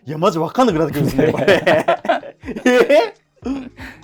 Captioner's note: laughing